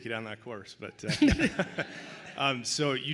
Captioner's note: laughing